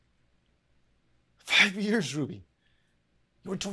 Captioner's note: speaks in a foreign language